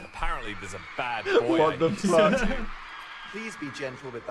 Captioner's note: laughs; laughing